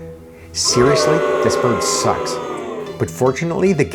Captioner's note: crowd booing